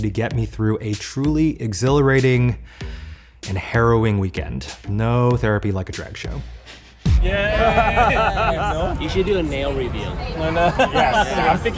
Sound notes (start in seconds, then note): 7.2 all cheering; 11.0 laughing